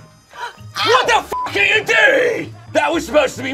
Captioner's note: beep